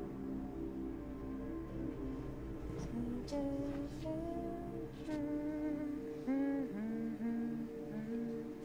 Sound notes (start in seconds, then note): 3.0 ominous music; 3.0 woman humming